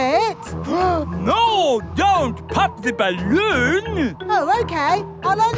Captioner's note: gasps